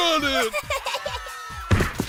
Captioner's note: crying